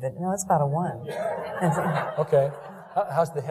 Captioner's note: laughing